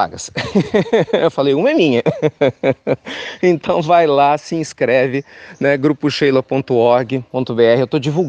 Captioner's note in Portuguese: risos